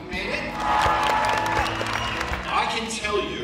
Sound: applause

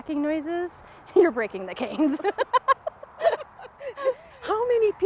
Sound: both laughing

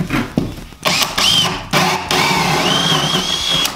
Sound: drilling

